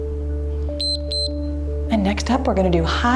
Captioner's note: timer beeps